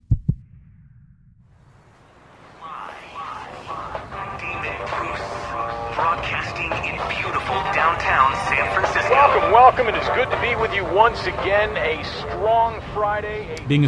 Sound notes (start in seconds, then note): 0.0 heart beats; 1.7 radio broadcast begins; 12.7 radio broadcast ends